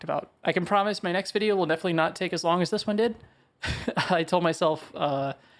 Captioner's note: laughs